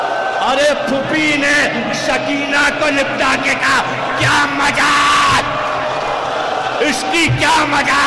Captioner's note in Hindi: चीखने की आवाज़